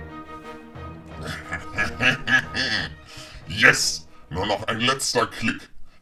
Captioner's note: evil laughing, distorted